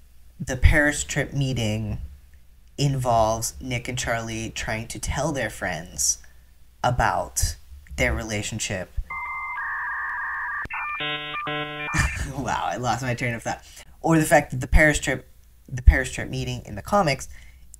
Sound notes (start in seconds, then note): 9.1 dial-up modem sounds; 11.8 laughter